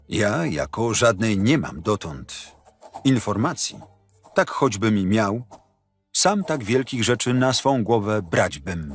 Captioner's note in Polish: Lektor